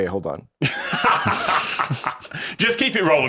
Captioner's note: laugh